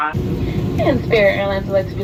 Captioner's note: airplane engine roaring